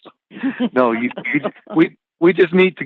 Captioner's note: chuckle